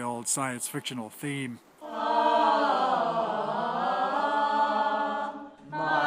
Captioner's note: all vocalizing